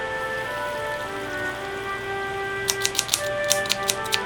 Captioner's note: oil sizzling